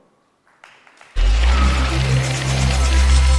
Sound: applause

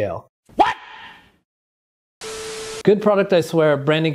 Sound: static sound effect

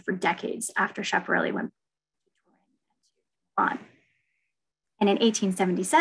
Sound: audio drop

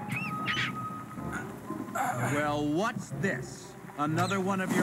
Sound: choking

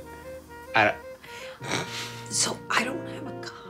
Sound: snickers

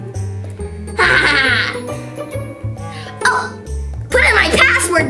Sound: evil Assistant laughing

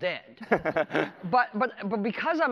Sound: laughs

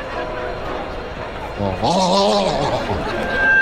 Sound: grumbling

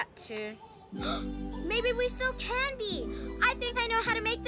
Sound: gasps

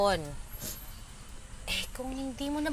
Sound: sniffles

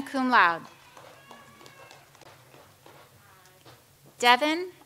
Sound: audience applauds

